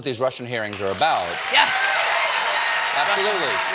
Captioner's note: applause